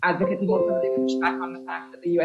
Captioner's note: notification tone